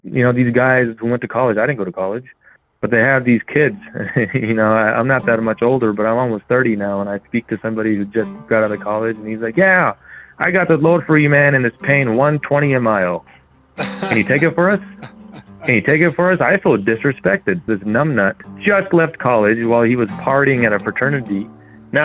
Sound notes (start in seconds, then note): 3.6 laughs; 13.8 host laughing